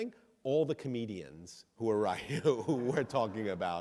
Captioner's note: audience laughs